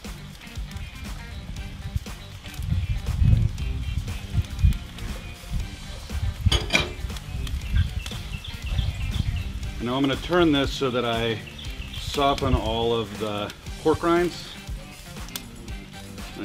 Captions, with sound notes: (pan simmering) (bowl clicks) Now I'm going to turn this so that I soften all of the pork rinds